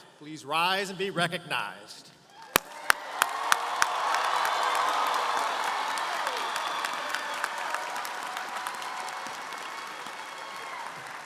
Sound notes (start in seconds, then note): 2.4 audience cheering & applauding